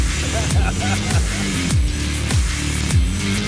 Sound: upbeat music; laughs; upbeat music

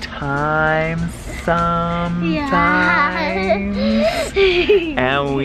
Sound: laughs

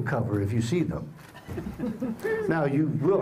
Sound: laughter

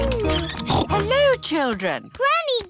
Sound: snorts

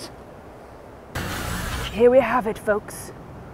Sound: tv static buzzes

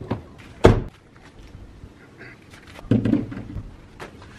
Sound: car door slams

